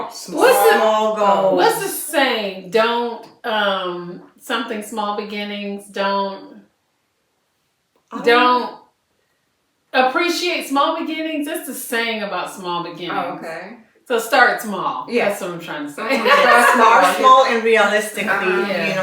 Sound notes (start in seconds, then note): 16.0 laughter